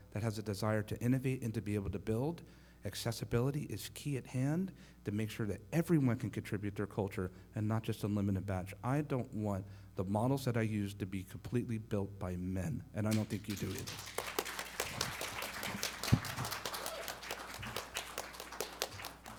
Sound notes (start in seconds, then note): 13.1 audience applauding